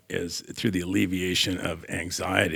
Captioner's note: none